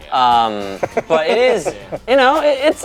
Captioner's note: laughing